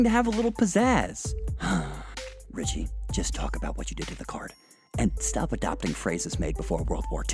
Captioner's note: sigh